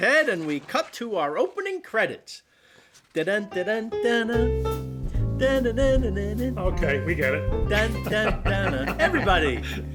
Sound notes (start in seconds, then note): 2.4 phil humming "everybody loves raymond" theme song